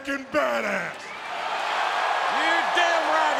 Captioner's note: audience cheers